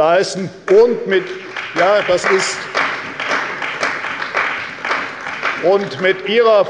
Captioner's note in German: Beifall bei der CDU